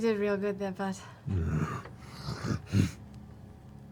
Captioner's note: bear noises